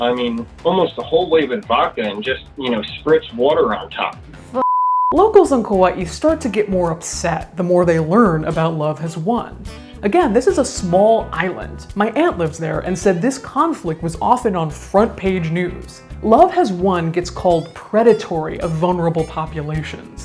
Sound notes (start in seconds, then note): 4.6 beep